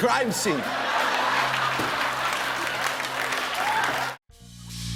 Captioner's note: laughter